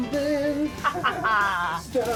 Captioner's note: laughter